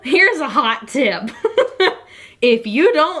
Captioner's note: laughs